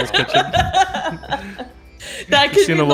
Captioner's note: laughter